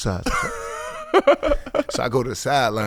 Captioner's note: laughing